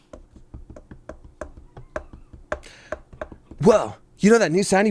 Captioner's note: taps fingers